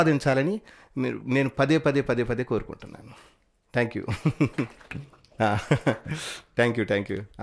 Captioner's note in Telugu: నవ్వు